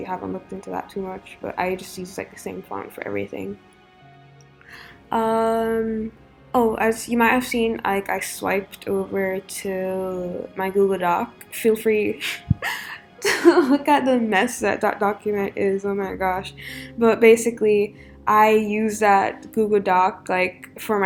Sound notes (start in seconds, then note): 12.2 chuckle TT